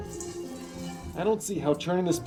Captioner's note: milk splatters in bucket